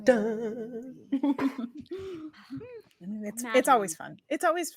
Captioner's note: chuckling